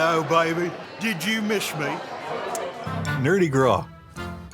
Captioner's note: kissing